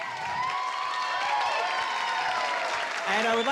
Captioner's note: cheering, applause